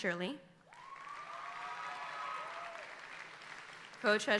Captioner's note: audience applauding